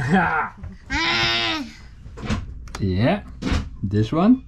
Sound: shouts

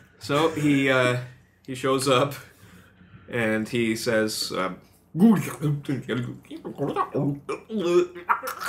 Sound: speaking an alien language

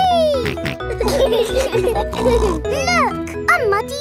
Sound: laughing

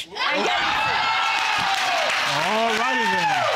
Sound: audience cheering

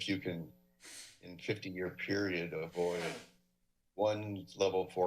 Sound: sneeze

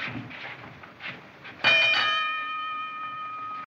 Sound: bell Rings

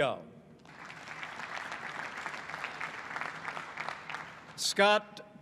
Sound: applause

